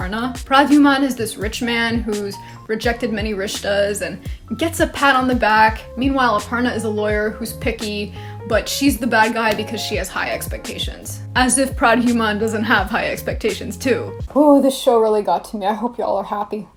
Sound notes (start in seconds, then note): none